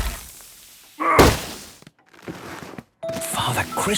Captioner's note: grunting; narrator whispering